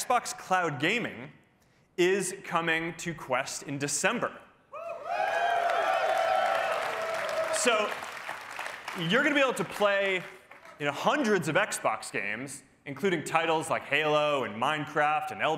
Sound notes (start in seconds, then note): 4.7 cheering